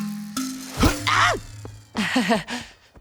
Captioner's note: chuckles